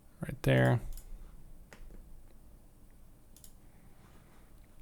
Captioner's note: mouse clicks